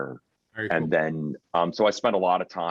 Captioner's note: murmurs